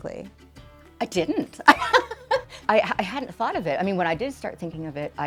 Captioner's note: laughs